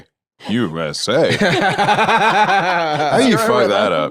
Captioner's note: laugh